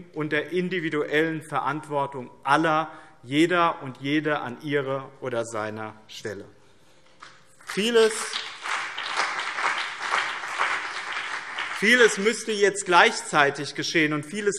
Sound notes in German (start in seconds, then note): 7.5 Beifall BÜNDNIS 90/DIE GRÜNEN und vereinzelt CDU